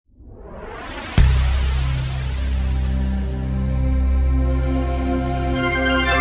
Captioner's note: logo whooshing; ethereal music